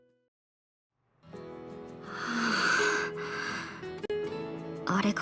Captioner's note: sigh